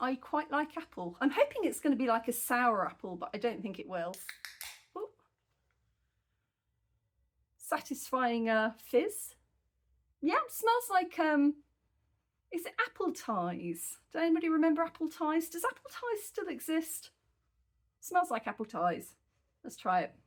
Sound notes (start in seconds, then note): 4.1 can opening